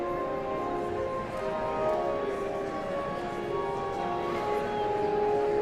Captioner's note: audience chattering continues